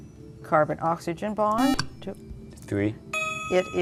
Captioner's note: buzzer